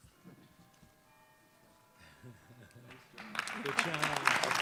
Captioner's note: bells chiming; audience clapping and cheering